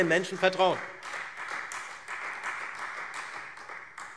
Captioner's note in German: Beifall Freie Demokraten